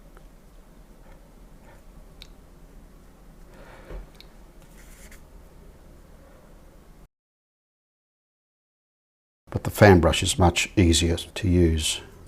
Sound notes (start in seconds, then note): 1.3 silence; 12.1 silence